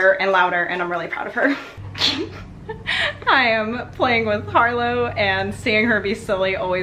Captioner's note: laughs